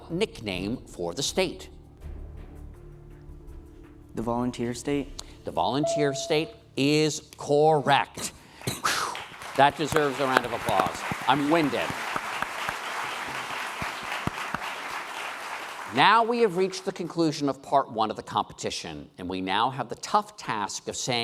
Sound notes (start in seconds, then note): 9.0 applause; 12.3 applause